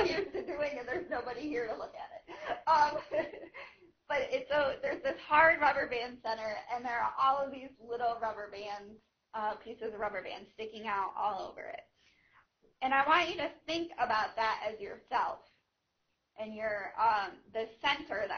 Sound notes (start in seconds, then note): 2.2 laughing; 2.8 laughter